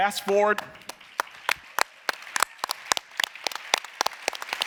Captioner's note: audience applauding